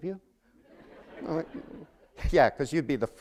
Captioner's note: laughter